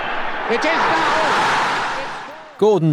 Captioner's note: crowd cheering